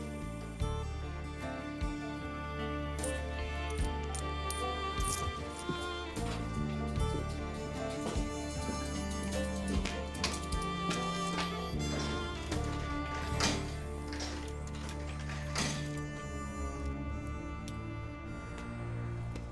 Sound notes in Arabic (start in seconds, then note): 4.4 طقطقة العملات المعدنية; 12.2 انزلاق العملات المعدنية في الآلة; 14.9 تشويق